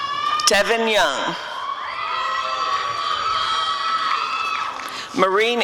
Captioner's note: applause and cheering